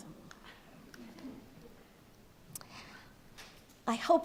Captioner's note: light crowd laughter